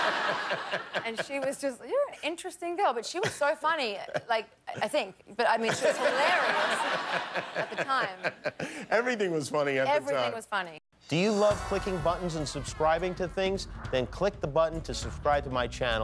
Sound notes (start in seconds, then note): 2.2 laughter